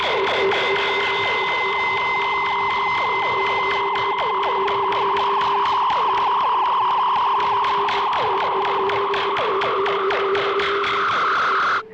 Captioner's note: high pitched whine